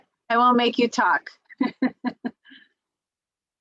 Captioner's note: laughs